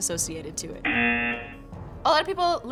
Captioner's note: buzzer